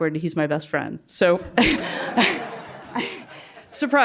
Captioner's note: laugh